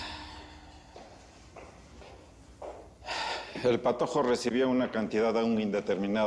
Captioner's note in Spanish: Suspiro